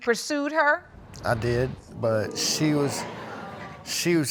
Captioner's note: audience murmuring